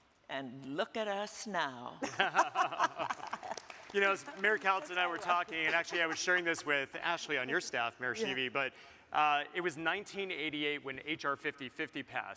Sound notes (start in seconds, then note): 2.0 hosts laugh; 2.5 audience claps